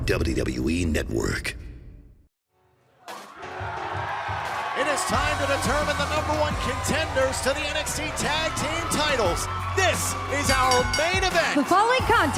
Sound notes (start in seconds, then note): 4.4 cheers and applause